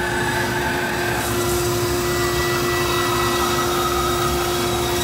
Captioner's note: saw whirring